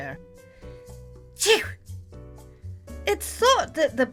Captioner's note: sneezes